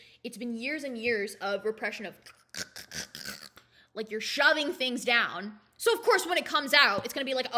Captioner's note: imitates crunching noises